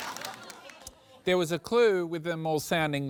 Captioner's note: laughter